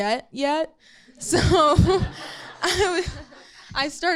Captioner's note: audience laughing